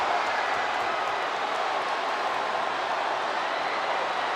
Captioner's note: crowd cheers